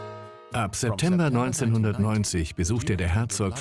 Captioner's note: voiceover